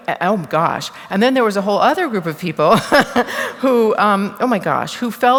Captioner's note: laughter